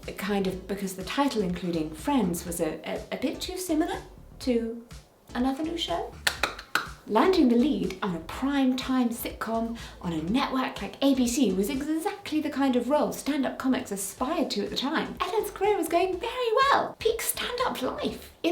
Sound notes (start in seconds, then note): 5.7 “Friends” handclap